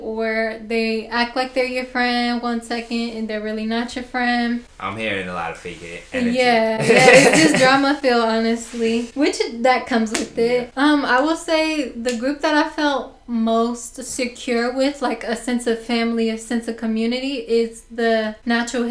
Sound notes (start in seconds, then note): 6.7 laughter